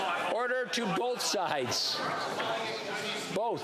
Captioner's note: yelling